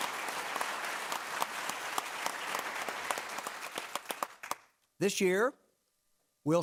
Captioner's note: clapping